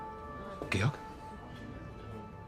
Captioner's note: speaking German